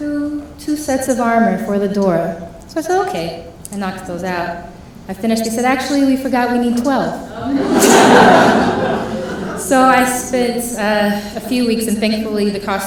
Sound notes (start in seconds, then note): 7.2 laughing